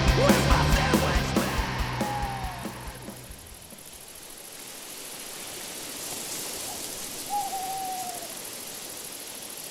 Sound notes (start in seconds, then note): 3.7 bugs chirping